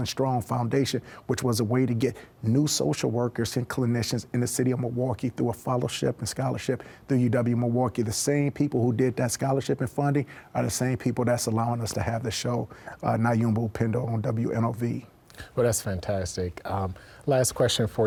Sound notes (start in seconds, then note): none